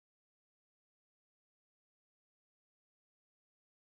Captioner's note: none